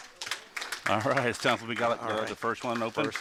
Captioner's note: Clapping in the Delta Launch Control